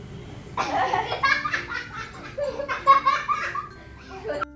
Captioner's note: laughing